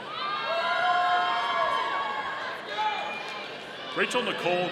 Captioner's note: audience cheering